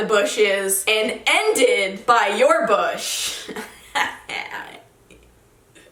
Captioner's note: chuckles